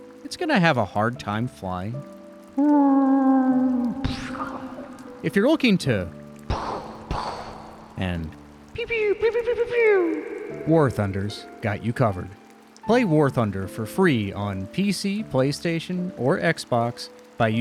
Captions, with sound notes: it's gonna have a hard time flying? [warrrghhhhhh] [pshhoww] If you're looking to... [boom-boom mouth noises] And... [pew-pew mouth noises] War Thunder's got you covered. Play War Thunder for free on PC, PlayStation, or Xbox by